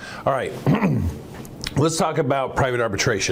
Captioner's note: clears throat